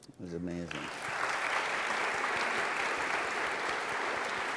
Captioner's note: applause